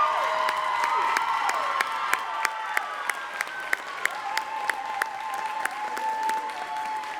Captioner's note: audience cheering and clapping continues